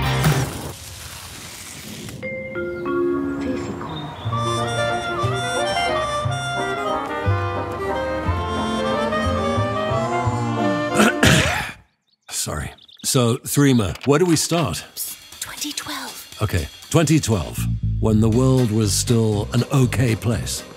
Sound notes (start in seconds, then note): 10.9 clears throat